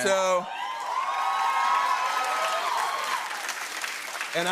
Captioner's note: cheers and applause